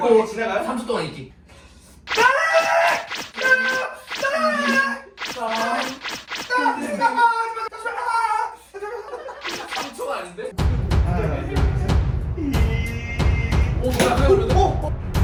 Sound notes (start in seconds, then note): 2.1 screaming in pain